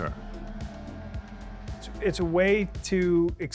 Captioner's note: powerboats revving